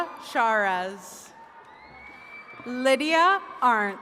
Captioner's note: attendees cheering